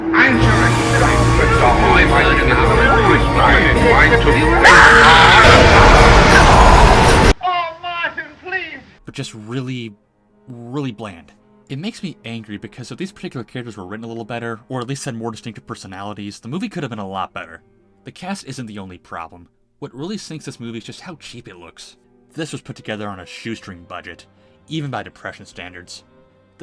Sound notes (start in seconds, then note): 4.4 loud horrific scream; 5.9 Sauron sound effect